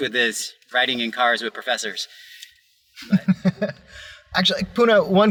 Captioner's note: laughter